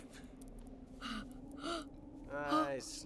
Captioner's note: Doogal gasping